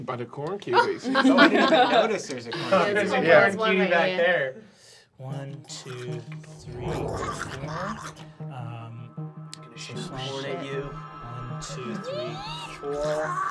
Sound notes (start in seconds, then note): 0.2 laughing; 6.6 snarling